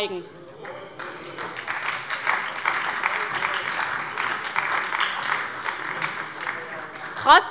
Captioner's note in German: Beifall bei der SPD